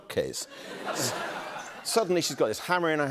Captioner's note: laughter